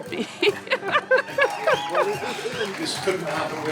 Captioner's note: laughter